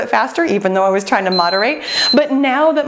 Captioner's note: timer beeping